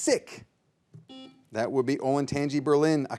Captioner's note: buzzer beeps